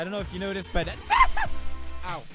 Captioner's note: dab sneeze